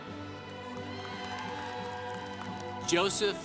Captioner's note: congregation applauding